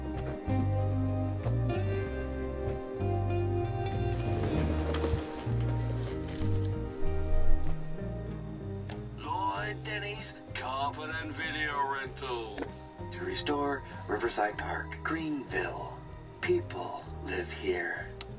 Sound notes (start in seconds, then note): 0.2 soft music continues; 3.9 bed rustles